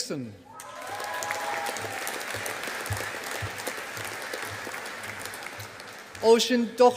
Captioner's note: audience applauding